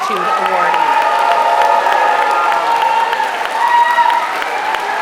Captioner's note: applause